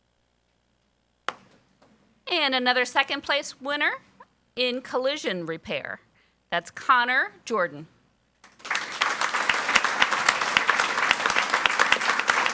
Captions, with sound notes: And another second place winner in collision repair, that's Connor Jordan. (audience applauds)